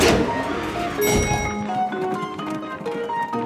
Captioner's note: dinging